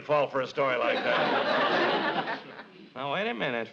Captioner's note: audience laughs